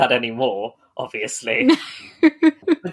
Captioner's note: laughing